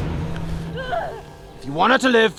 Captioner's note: Lucia groans